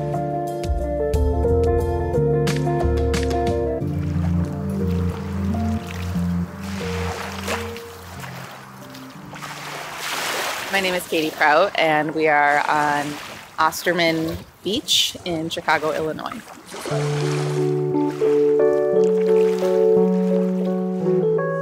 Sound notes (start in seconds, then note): 0.1 soft thoughtful music; 4.6 water splashing; 16.8 soft gentle music